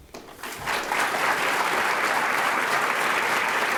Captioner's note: applause